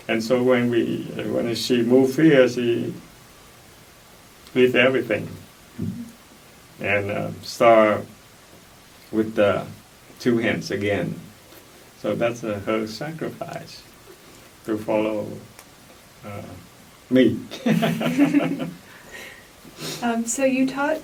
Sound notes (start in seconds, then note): 17.5 laugh